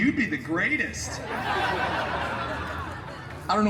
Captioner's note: guests laughing